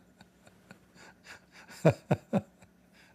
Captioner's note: Ketawa